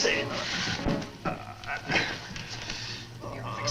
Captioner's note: Mario groans